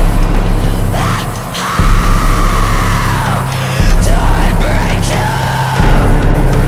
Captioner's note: screams